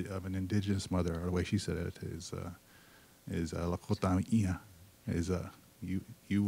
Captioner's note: speaking Lakota